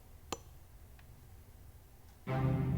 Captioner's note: hammering from outside; pensive music